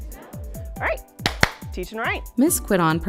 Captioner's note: clapping